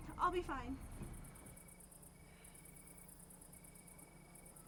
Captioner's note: crickets chirping